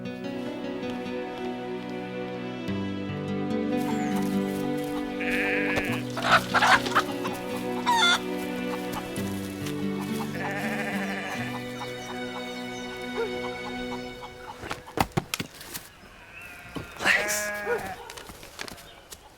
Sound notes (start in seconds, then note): 0.2 soft music; 6.5 chicken squawks